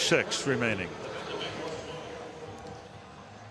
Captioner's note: pa announcement